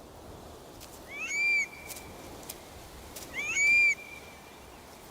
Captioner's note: curlew calls